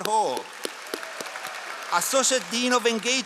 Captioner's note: all applauding